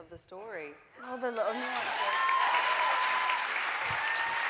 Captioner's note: audience cheering